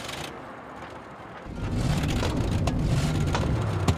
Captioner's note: engine sputters